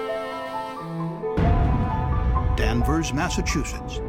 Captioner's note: sound of explosion